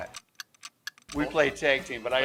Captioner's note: ticking noises